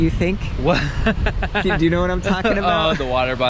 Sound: laughs

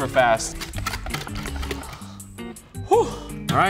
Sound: whisk clicking

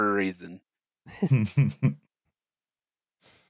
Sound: light laughter

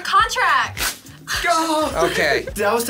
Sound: paper rips

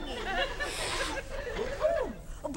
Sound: audience laughter

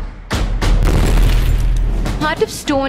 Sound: explosion booms; pistol shots crack

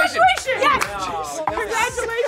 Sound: claps

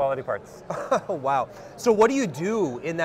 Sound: chuckles

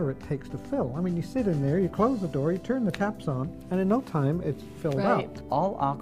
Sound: woman agreeing

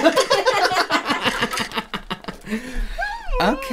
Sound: joyous Laughter

